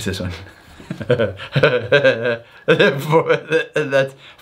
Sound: laughing

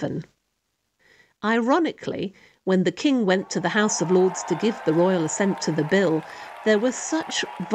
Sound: cheering

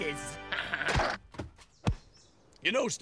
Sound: thud

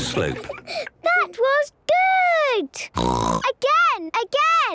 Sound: snorting

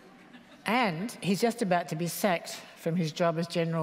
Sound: laughter

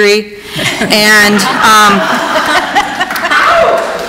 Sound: laughs

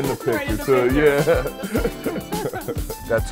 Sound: laughter

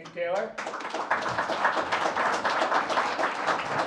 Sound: applause

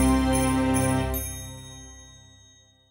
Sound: bell chimes

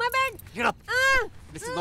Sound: screams

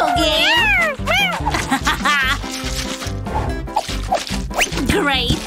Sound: meows

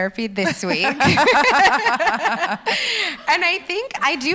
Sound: laughs

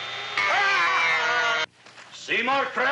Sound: buzzing; chocked screaming; grinding

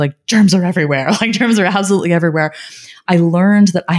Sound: laughing

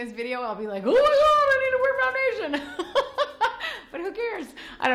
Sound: laughs

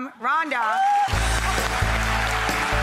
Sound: applause; upbeat music

